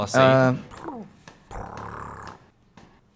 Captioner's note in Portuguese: gato ronronando